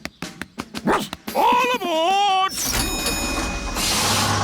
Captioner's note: barks; rings bell